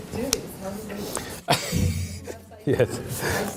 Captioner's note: laughs